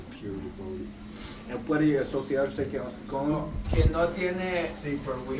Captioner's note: Spanish